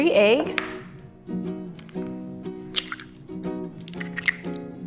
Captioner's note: eggs cracking